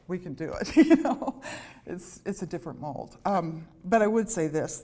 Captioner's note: laughter